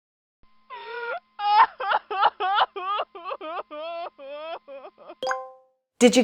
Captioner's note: crying